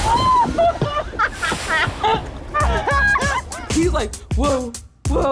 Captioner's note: woman laughing